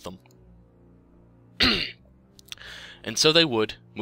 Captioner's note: clears Throat